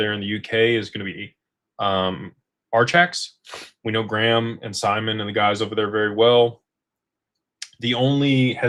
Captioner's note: snorts